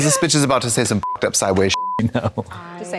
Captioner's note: beep